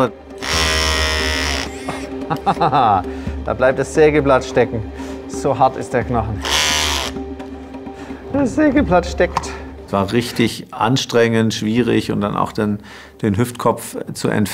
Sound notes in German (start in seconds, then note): 0.4 Dumpfes Sägen; 1.6 lacht; 6.4 Dumpfes Sägen